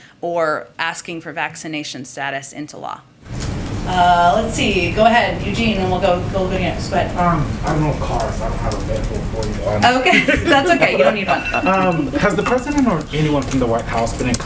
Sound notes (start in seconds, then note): 9.8 laughs; 9.9 laughter